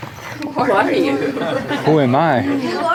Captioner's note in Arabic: يضحك